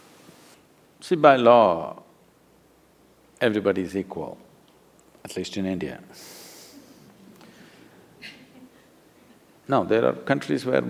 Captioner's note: few laugh